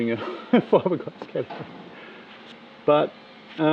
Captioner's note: laughing